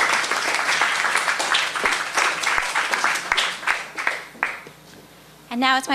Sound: applause

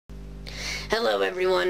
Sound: deep breath

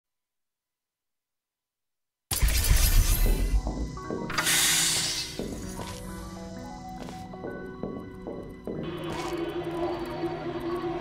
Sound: game sounds

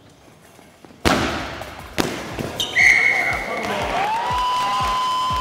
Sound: ball bouncing, score goal, Whistle blowing; crowd cheering

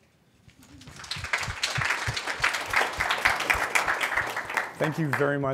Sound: applause

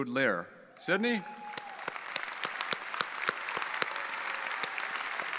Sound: audience applauding

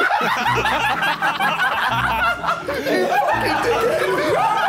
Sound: everyone laughs

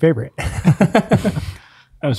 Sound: laughs

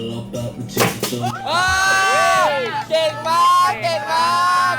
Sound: so many fans cheering!

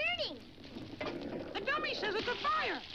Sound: water splashes

